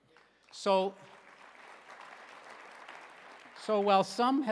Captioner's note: applause